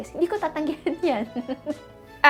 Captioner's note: giggles